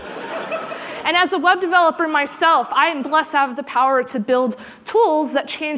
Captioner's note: laughter